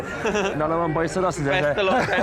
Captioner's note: talking in unison